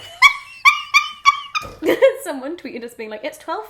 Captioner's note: both laugh